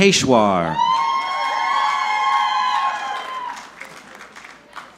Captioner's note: audience cheering